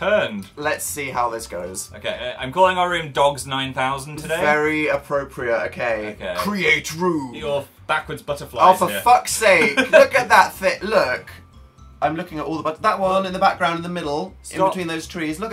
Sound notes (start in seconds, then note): 6.5 dramatically; 9.6 laughs